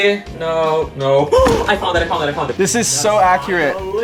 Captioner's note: gasps